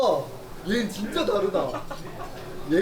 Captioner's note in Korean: 찐친 웃음